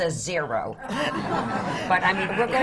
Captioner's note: laughter